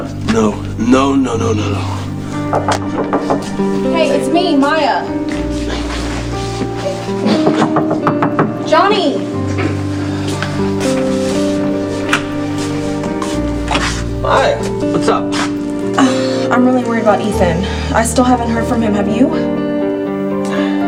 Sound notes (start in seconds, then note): 2.4 knocking; 7.3 knocking